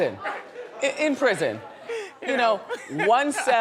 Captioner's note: laughing